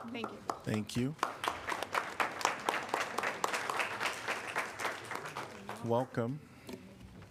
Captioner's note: applause